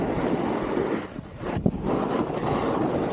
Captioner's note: sound of riding